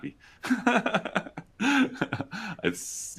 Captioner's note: laughs